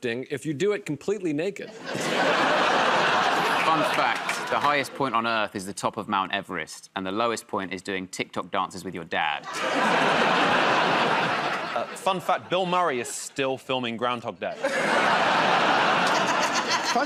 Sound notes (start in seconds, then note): 1.6 laughter; 9.4 laughter; 14.5 laughter